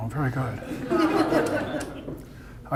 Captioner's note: audience laughter